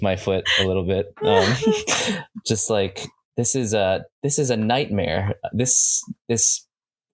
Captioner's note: chuckles